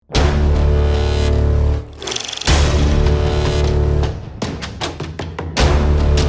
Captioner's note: dramatic music; film reel sound